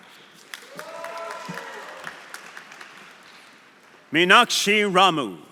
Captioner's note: audience applauding; audience cheering